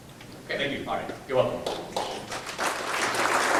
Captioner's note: audience applause